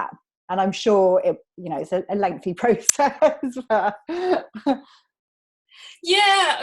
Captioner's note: laughs